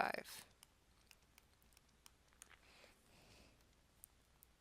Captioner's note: silence